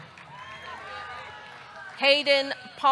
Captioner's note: audience clapping; audience cheering